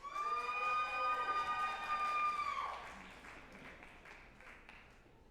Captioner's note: group applauding and cheering